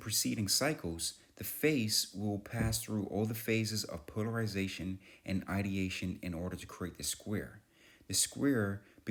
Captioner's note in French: l'orateur inspire pendant quatre secondes